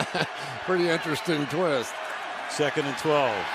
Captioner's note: laughs